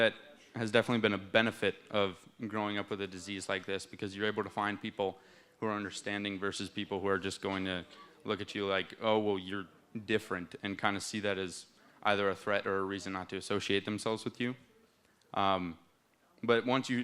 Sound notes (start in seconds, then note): none